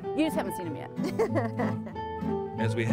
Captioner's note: chuckling; laughing